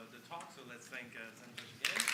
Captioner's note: applause